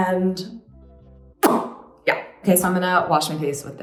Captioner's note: smacks lips